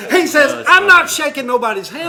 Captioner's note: laughter